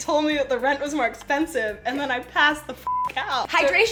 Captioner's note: beep